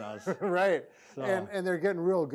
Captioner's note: laughing